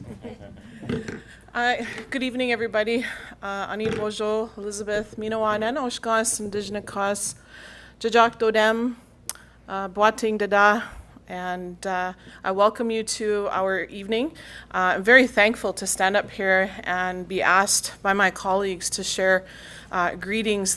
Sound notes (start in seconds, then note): 3.7 speaking in Ojibway